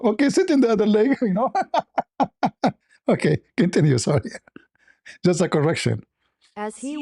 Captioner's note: laughter